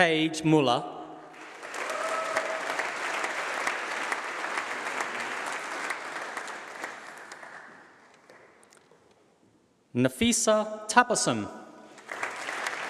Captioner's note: applause